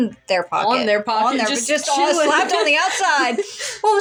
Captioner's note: laugh